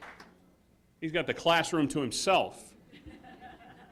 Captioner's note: applause